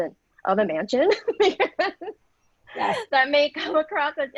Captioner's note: laughing